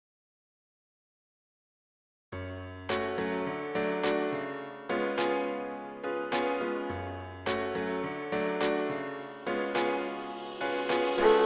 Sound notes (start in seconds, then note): 8.4 claps